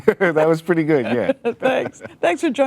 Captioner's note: chuckling